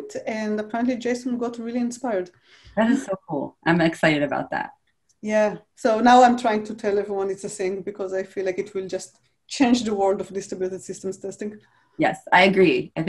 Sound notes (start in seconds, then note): none